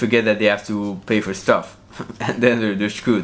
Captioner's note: chuckles